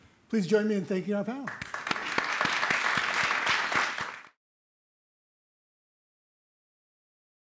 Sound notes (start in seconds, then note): 1.4 audience clapping